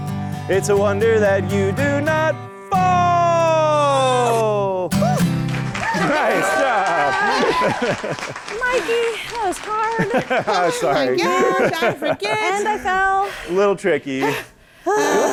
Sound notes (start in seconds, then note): 4.3 groans; 10.5 laughs